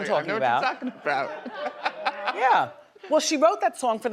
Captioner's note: male chuckles